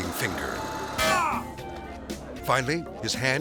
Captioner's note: person grunts